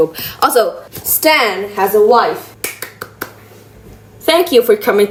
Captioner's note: claps